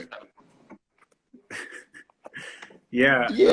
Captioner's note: laughs